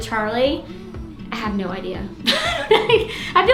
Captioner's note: laughs